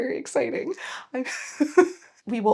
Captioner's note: laughs